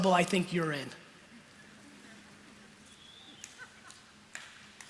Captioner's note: laughter